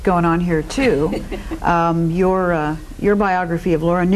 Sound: laughing

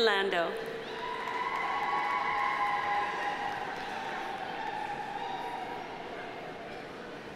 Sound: audience cheering; audience applauding

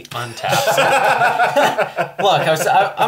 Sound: all laugh

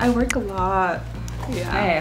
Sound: soft clicking

